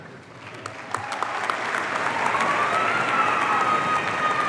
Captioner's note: audience cheering